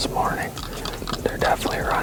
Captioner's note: antlers rattling